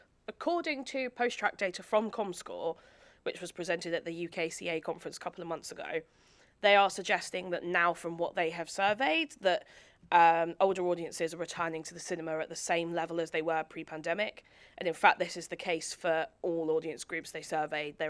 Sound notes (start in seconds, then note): none